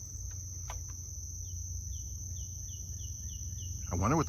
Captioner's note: birds chirping